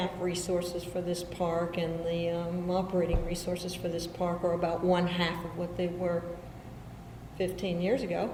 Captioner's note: none